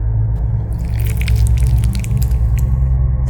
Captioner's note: squishing noise